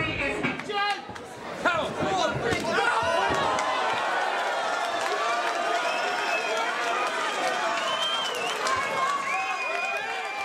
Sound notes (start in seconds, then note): 2.1 crowd cheering and clapping